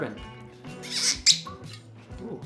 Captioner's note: squeaking cork